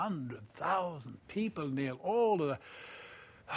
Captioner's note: sighs